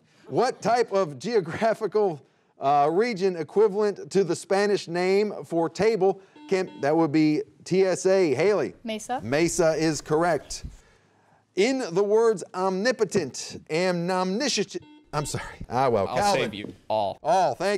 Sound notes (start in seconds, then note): 6.3 buzzer beeping; 14.7 buzzer beeping